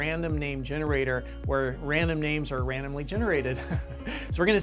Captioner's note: laughs